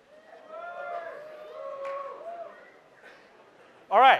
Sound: cheering

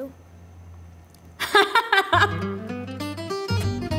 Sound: laughs; cheerful music

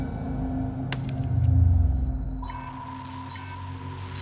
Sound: sonar Pulse

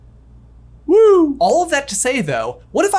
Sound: unenthusiastically

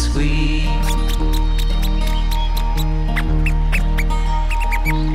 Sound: mouse squeaking

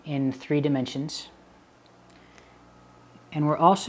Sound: pause

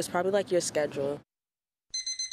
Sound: alarm

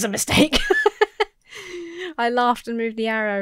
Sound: laughs

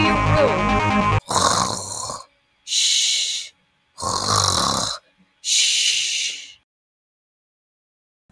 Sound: snoring

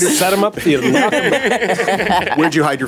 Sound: laughter

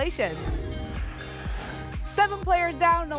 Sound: whoosh

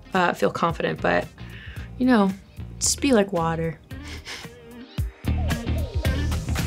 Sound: small laugh

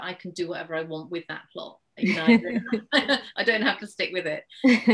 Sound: laughs

